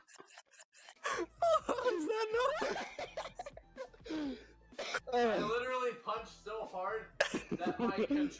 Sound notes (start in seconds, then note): 1.3 still laughing; 2.7 laughing